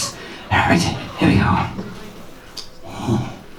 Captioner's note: breathily